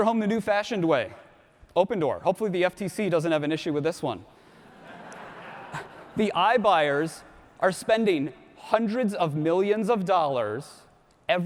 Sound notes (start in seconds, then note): 4.5 audience laughs